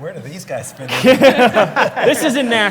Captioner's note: laugh